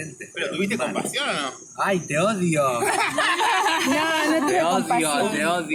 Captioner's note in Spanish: risas